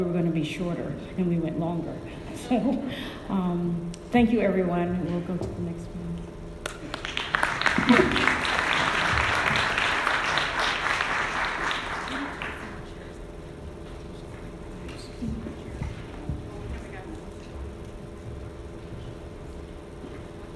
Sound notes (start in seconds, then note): 3.3 laughs; 6.6 audience clapping